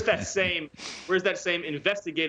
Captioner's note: laughter